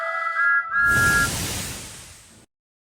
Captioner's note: thomas whistles